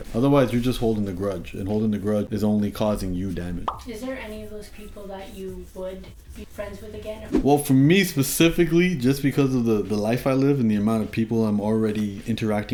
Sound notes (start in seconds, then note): 3.6 bubble popping